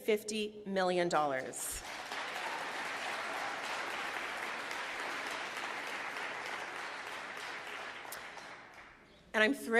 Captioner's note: applause